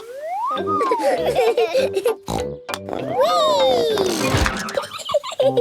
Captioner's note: snort, laughing; snort